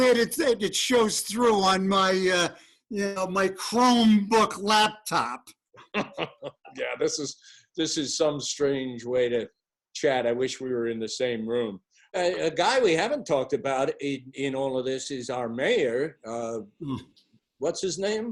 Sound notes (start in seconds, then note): 5.8 laughter